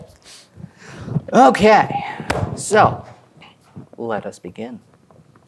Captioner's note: claps